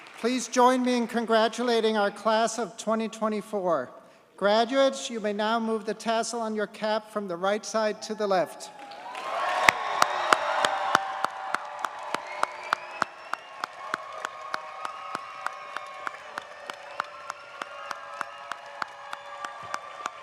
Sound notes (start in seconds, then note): 9.9 audience cheers and applauds